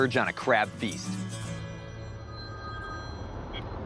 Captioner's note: phone rings